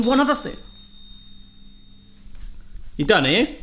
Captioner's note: oven bell dinging